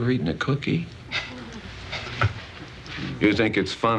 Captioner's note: murmuring, chuckling